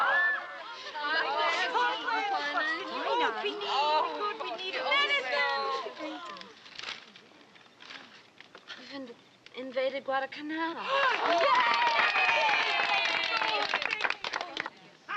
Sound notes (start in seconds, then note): 0.0 cheering; 10.8 cheering